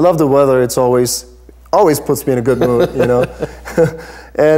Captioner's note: chuckles; laughs